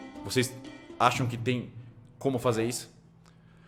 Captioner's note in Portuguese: none